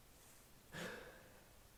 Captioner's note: deep inhale